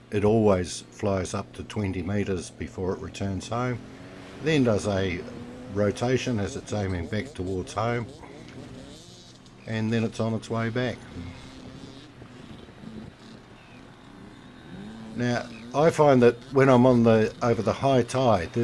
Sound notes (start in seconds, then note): 7.9 motorbike revving; 10.5 motorbike engine running